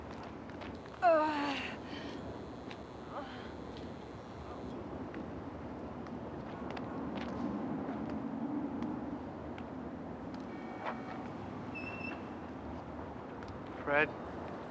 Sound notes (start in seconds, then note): 1.0 groaning